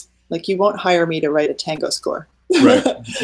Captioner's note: laughing